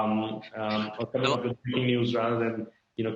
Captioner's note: laughs